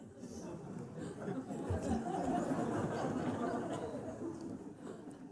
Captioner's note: laughter